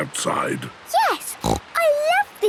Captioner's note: snorts